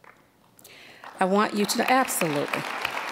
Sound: applause

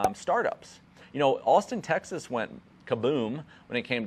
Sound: logos popping

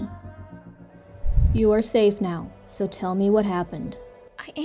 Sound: swoosh

